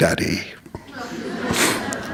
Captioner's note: laughter